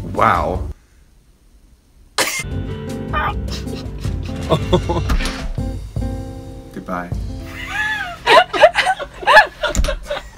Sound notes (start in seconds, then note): 3.6 laughs; 3.6 both laugh; 7.4 both laugh